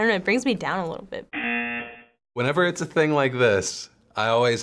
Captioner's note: buzzer